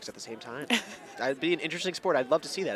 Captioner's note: laughs